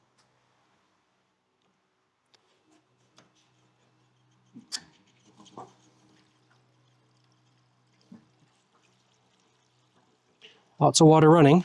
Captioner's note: silence